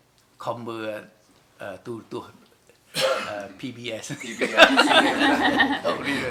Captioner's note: laughs